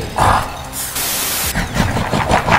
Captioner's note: static Effect